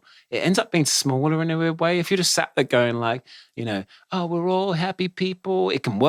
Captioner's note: none